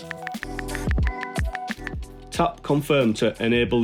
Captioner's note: cell phone clicking; upbeat music